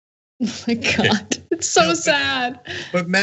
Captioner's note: laugh